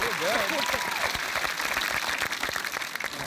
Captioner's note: applause